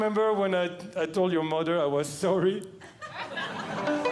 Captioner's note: audience Laughing; plucks Strings